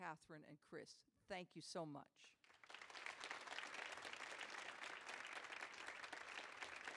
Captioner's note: audience applauding